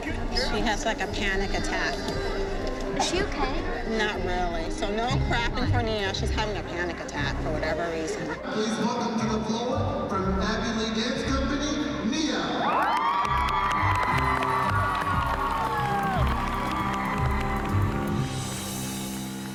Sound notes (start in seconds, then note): 12.6 cheering